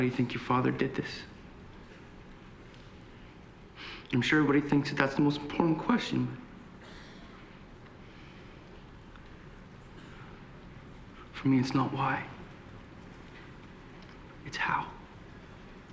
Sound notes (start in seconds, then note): 2.2 voice breaking